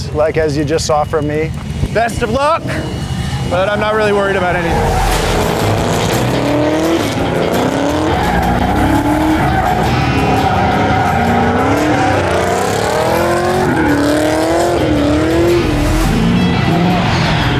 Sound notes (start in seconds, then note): 5.3 car engine revving